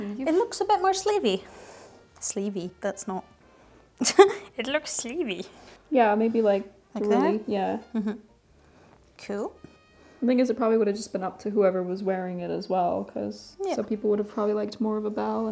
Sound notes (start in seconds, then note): 4.0 laughs